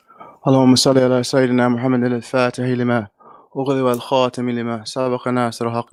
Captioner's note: speaking in foreign language